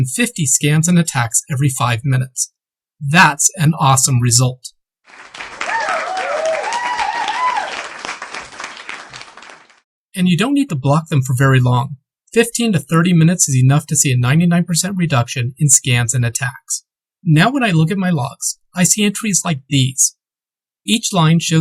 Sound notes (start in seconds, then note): 5.1 crowd cheers